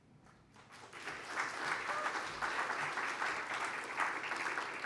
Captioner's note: applause